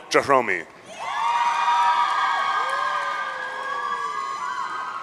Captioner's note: audience cheering